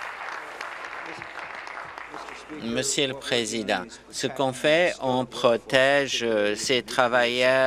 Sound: applause

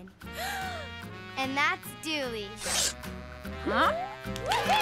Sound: cheering, elephants trumpeting

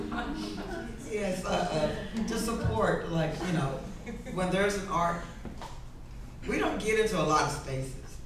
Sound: laughing in the crowd

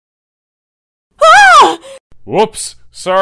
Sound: shriek!

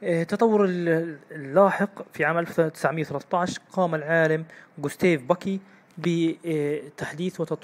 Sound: German

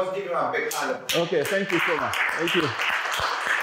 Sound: applause

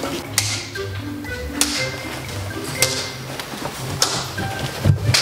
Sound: ruler slamming

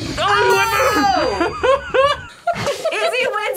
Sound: laughs

